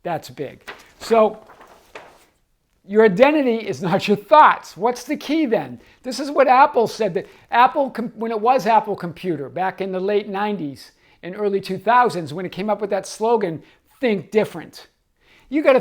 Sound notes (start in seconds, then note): 0.5 paper crinkling